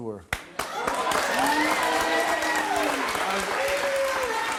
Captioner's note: audience cheers